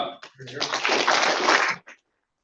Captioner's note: applause